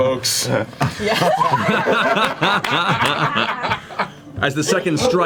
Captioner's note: all laugh